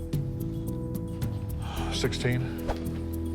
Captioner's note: exhales